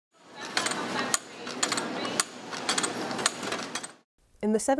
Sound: machine Sounds

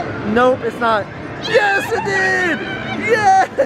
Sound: both cheer

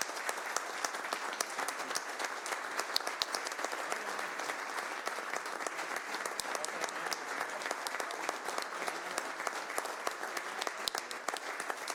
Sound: applause

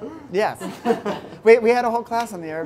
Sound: laughs

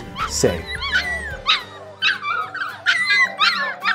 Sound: barking

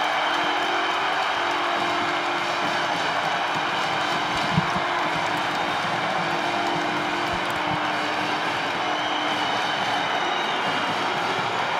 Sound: cheering and Screaming

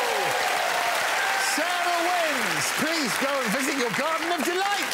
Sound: applause, cheering

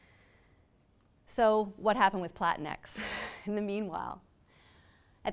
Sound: laughs

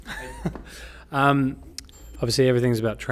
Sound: laughs

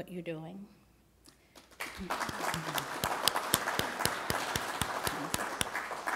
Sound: applause

